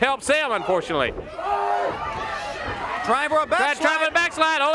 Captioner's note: crowd cheering